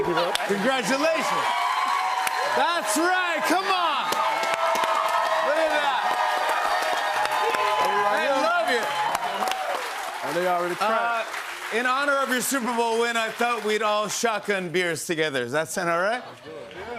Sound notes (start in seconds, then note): 4.1 cheers and applause